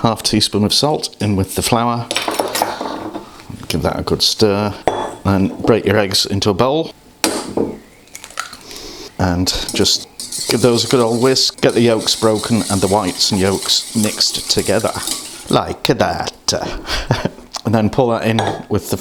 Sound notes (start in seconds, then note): 7.0 crack; 8.2 sploosh